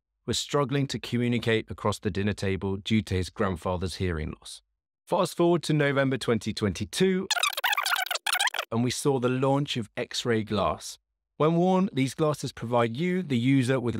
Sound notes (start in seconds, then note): 7.3 fast forward sound